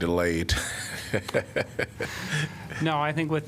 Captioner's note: laughter